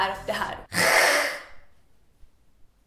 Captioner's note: hissing noise